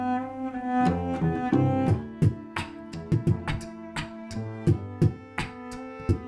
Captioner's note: classical music; beat boxing